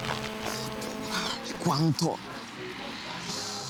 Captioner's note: phone vibrating; short circuit buzz